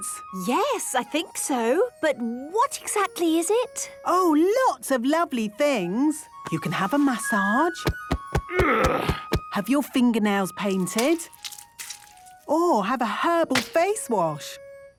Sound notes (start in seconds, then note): 7.7 thumping; 8.4 moaning